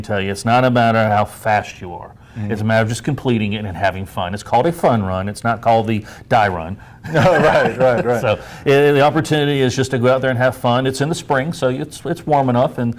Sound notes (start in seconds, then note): 7.0 laughs